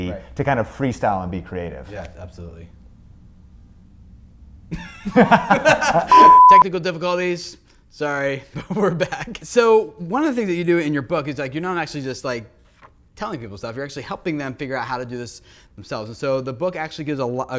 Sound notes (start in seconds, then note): 4.7 both laughing; 6.1 beeping